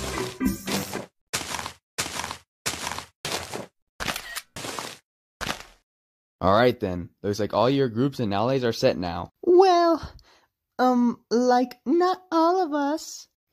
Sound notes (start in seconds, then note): 0.1 walking sounds; 3.3 more walking sounds; 4.0 camera click